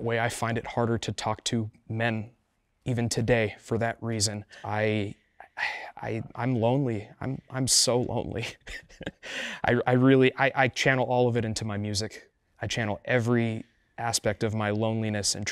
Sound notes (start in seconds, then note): 8.4 chuckling emotionally